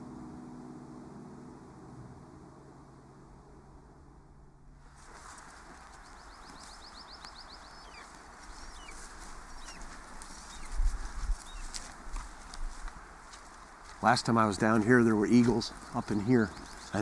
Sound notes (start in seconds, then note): 0.2 wind blowing; 6.5 birds chirping